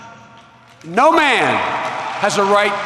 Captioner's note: applause